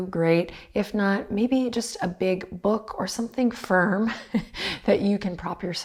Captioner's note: chuckles